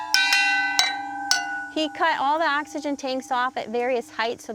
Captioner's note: tubes chime brightly